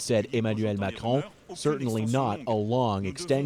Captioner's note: speaking French